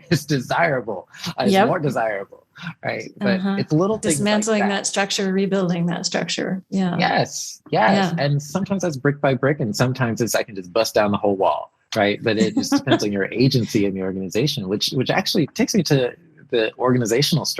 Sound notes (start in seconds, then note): 2.6 laughs